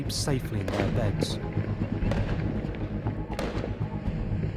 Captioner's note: fireworks popping